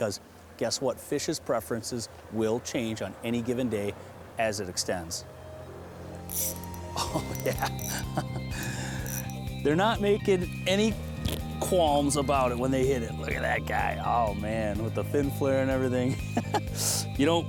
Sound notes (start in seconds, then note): 6.2 fishing reel spinning; 8.5 laughs